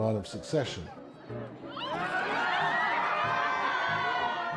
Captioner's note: crowd laughing